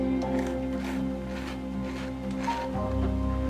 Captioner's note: tool scraping